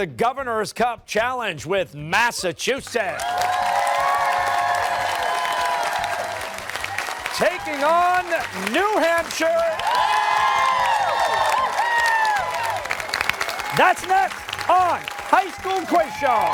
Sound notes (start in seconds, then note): 3.6 cheers and applause; 10.3 cheers and applause